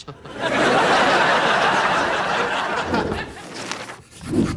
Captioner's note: audience laughing